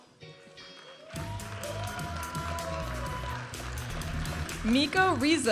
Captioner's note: vibrant music; audience applauding and cheering